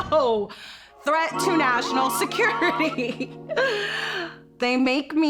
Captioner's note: laughs